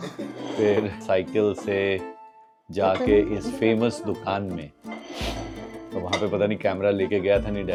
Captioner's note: nasal sound